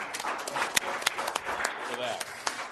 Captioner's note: applause